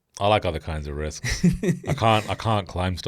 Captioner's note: laughs